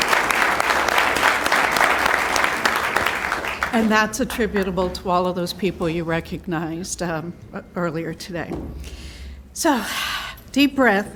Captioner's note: applause